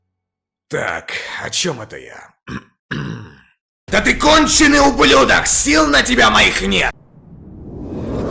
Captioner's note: cough